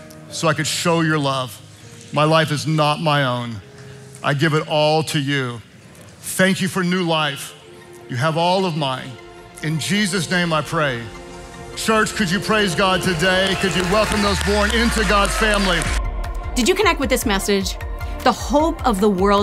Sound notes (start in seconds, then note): 16.0 congregation applauding